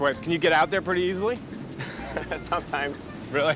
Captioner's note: laughs